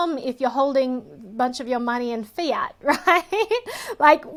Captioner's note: laughs